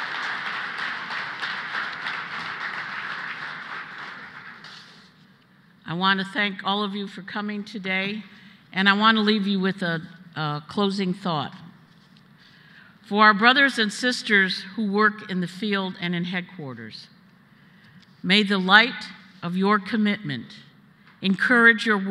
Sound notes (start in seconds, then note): 2.6 applause